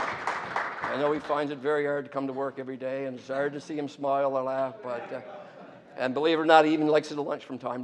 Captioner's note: applause